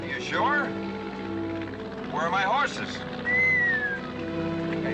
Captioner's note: whistles